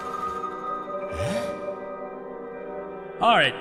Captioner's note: sigh of surprise